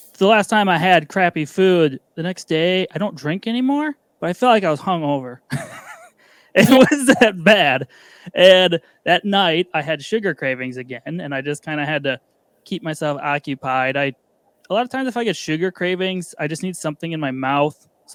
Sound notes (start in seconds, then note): 5.5 laughing